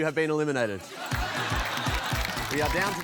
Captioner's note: applause, laughter